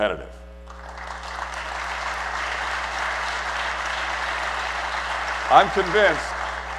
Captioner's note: applause